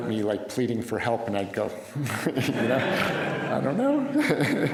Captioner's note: laughter